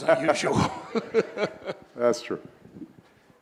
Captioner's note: laughing